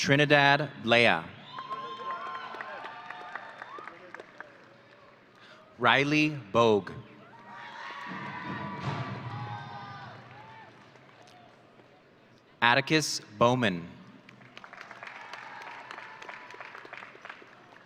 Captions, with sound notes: Trinidad Blea. (audience cheering) Rylie Bogue. (audience cheering) Atticus Bowman. (audience applauding)